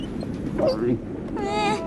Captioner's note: gulp